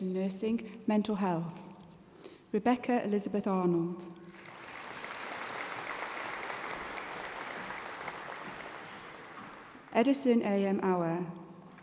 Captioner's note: applause